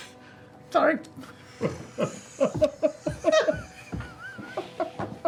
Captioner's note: laughter